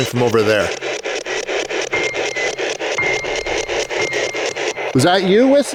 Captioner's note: static ticking; unsettling music